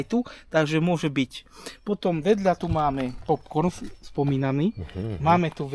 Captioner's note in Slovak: smrkanie